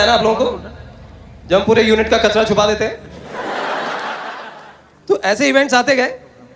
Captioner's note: loud Laughter